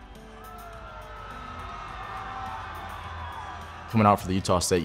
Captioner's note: crowd cheering